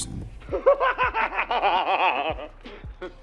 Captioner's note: laughing maniacally